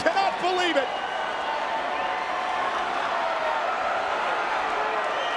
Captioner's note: crowd chattering